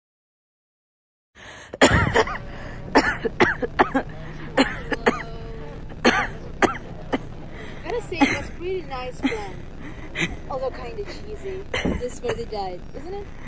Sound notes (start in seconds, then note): 1.7 static noise, Leon coughing